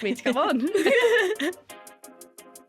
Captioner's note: laughter